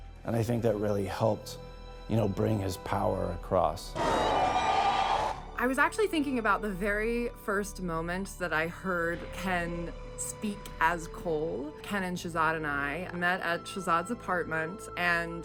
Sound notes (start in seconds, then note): 4.0 roars